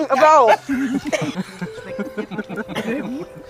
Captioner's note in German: Lachen